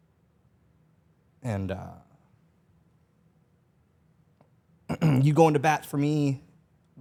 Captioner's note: clears throat